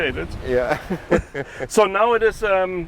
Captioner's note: both laugh